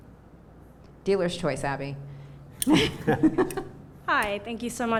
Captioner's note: laughs